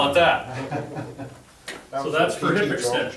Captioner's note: laughs